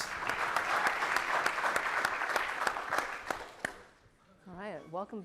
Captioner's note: audience applauding